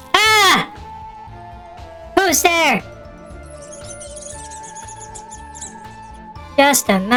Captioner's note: panicking